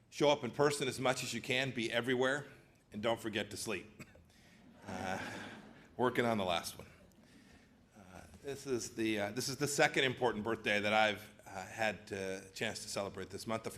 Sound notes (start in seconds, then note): 4.7 laughter